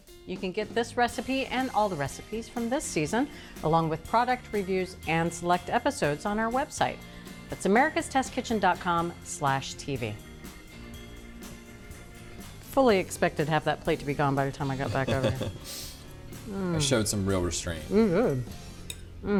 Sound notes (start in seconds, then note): 14.8 laughs